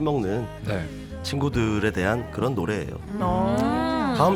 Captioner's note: sounds like they’re wheezing